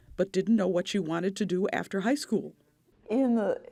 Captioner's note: none